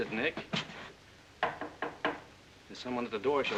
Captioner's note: knocking on door